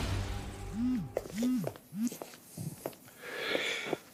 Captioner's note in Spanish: Suena el celular